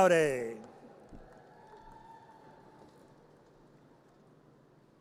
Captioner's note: audience cheers